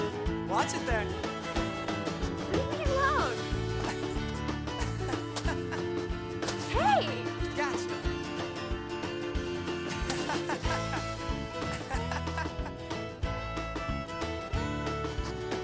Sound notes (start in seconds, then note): 4.6 Jack laughing